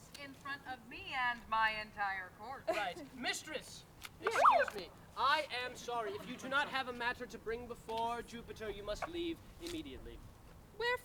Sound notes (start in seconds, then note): 4.2 siren whoop